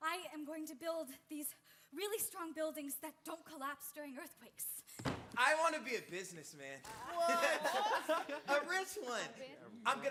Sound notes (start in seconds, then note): 7.0 performers chuckles